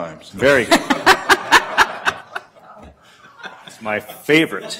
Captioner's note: laughter